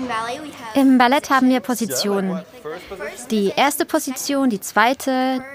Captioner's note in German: englisch